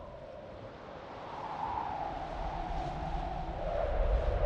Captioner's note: wind noise